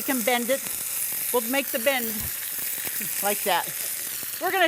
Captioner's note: oil cooking